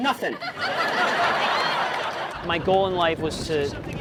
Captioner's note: audience laughing